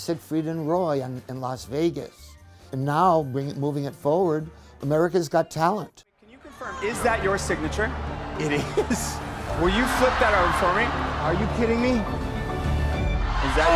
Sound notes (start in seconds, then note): 8.4 Howie chuckling; 12.6 tense music